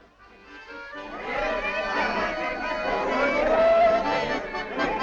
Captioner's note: crowd talking and laughing